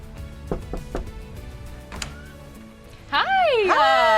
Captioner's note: knocks